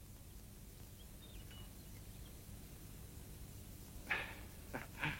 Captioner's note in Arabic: يضحك